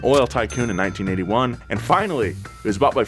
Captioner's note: cash register pings